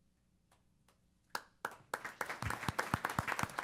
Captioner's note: applause